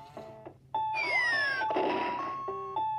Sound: bomb explodes

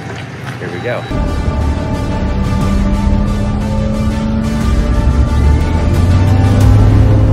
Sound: plane engine humming; upbeat music

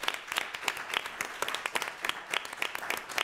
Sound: applause

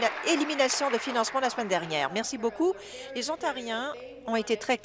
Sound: applause

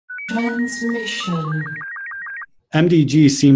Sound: voiceover

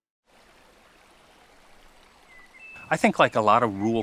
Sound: water flowing

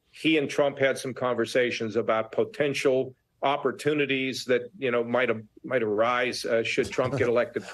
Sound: laughter

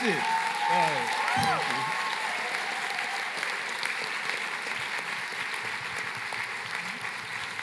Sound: cheering and applause

